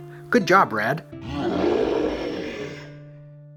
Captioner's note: roar